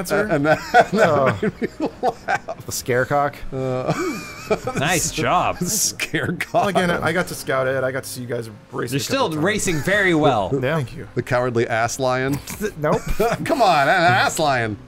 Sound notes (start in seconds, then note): 0.1 laughing; 3.8 laughter